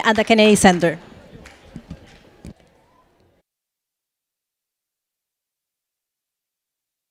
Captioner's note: attendees chattering; footsteps tapping